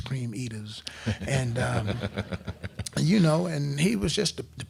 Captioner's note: crowd laughing